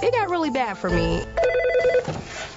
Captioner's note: phone rings